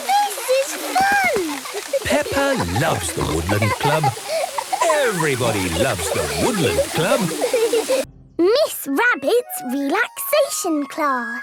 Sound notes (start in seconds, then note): 1.4 laughter